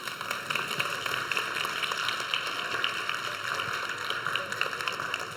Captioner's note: audience applauds